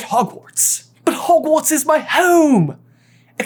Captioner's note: accented